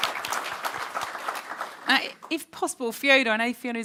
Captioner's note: audience claps